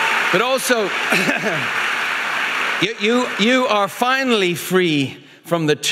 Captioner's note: audience applauding; clearing throat